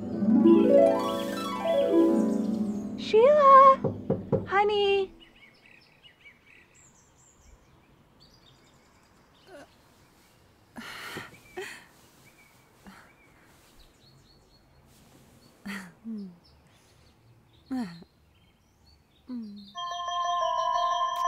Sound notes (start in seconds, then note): 0.0 uplifting harp music; 8.6 birds chirp; 10.7 Sheila gasps; 13.7 birds chirp; 17.6 Sheila chuckles; 19.7 uplifting music